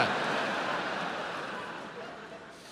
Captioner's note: audience laughs